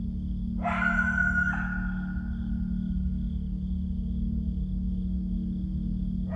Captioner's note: tense music; animal screams louder